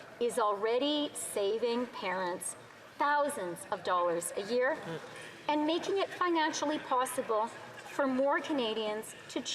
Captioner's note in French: voix de l'interprète